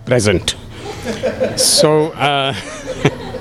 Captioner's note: laughter